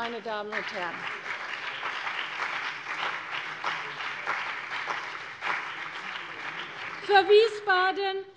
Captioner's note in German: Beifall CDU und BÜNDNIS 90/DIE GRÜNEN